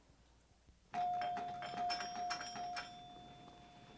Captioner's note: doorbell dinging